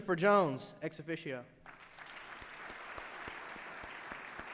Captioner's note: applause